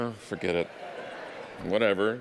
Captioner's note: audience laughing